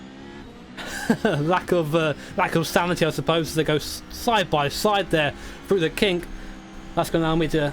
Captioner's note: laughs